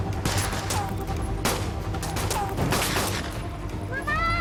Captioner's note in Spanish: Disparos